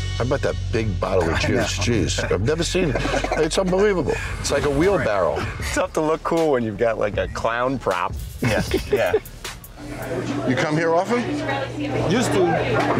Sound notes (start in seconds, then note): 8.4 laughs